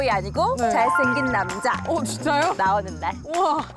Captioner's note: emphasis sound effect